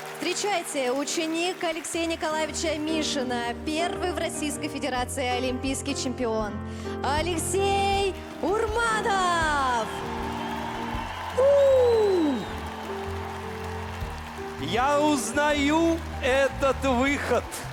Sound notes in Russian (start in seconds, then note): 11.3 аплодисменты; 13.1 ликование